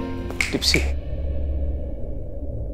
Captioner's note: Finger snaping